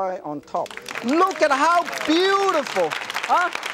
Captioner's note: applause